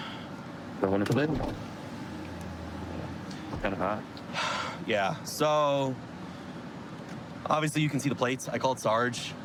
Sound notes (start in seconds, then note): 4.3 sighs